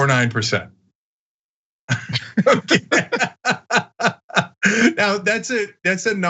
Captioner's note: laugh